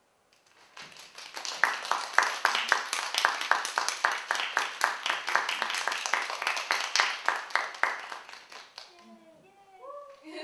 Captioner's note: applause; laugh